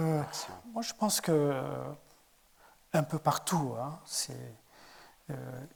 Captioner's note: speaking in French